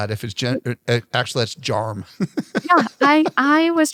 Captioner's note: laughs